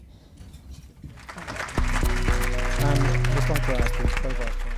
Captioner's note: audience Applause